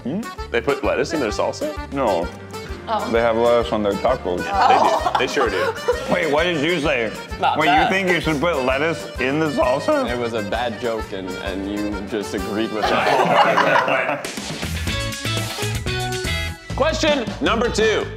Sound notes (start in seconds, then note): 12.8 is drowned out by cast laughter; 14.3 upbeat pop theme music